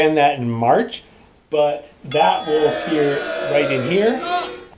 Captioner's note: crowd booing